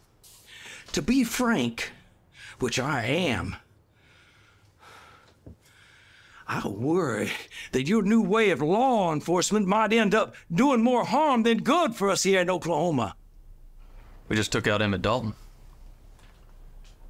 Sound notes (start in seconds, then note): none